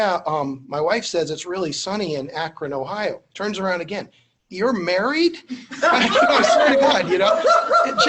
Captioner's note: laughter